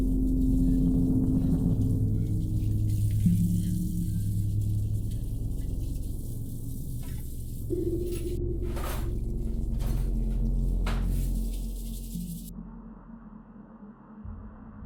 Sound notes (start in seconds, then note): 8.6 clattering; 11.5 tense ambient music